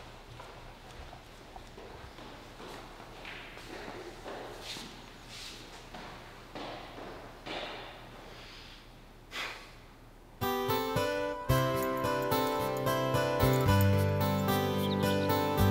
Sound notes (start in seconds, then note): 5.7 footsteps tapping; 10.4 Phil sighs; 10.4 gentle upbeat music